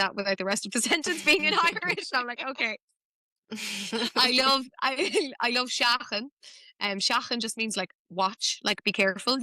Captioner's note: laughter